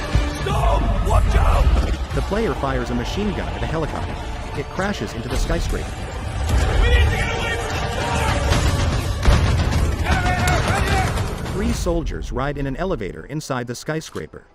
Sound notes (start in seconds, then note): 6.3 soldiers yelling; 12.1 elevator music playing